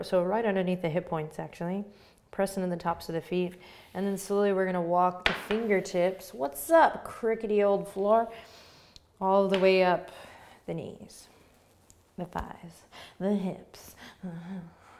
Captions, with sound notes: Right underneath the hip points, actually. Pressing into the tops of the feet, slowly we're going to walk the fingertips. (floor creaking) What's up, crickety old floor? All the way up the knees, the thighs, the hips.